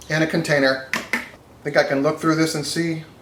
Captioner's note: plastic containers clack together